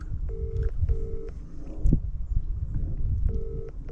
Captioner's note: dial tone trilling